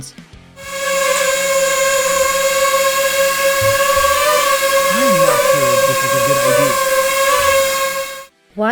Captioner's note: loud sound of the drone